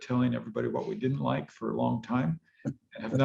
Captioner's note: laughs